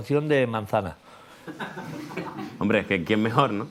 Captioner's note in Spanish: Risas